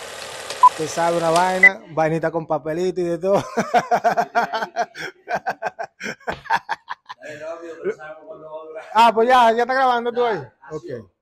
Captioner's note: laughs